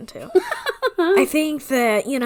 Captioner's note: laughs